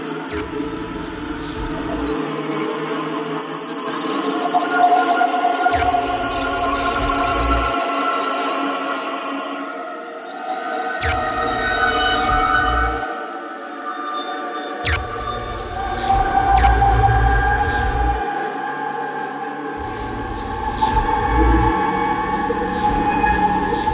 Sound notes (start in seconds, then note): 0.4 electricity surges; 2.2 discordant choral music; 5.8 electricity surges; 7.8 discordant choral music; 11.1 electricity surges; 13.1 discordant choral music; 14.9 electricity surges; 18.4 discordant choral music; 19.8 electricity surges